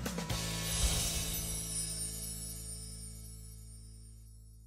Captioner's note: screen whooshing